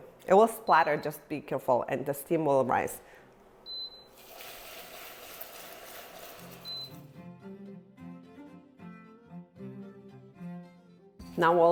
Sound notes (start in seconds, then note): 3.8 burner beeping; 4.1 caramel sizzling; 6.6 burner beeping; 7.2 classical music continues